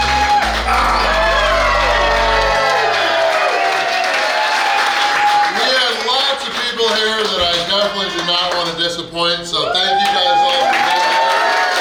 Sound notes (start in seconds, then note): 0.0 cheering & Clapping